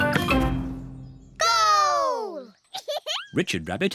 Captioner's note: giggles